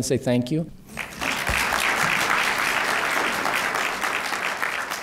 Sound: applause

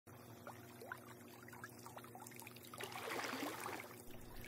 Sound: sounds of gentle water splashes and waves

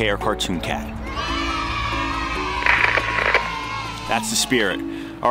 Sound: video crackles; crowd

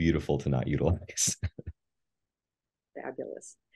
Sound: laughs

